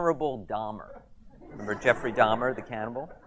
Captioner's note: audience laughs